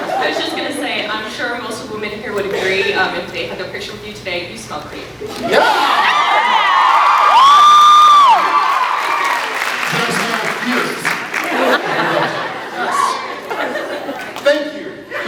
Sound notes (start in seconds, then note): 6.0 cheers; 8.3 cheers, applauds; 8.8 applauds; 13.3 scattered laughs